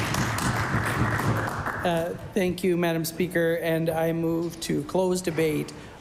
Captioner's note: applause